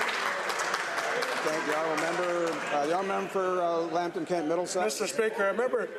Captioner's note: some Applause